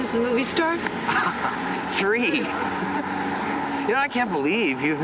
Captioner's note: chuckles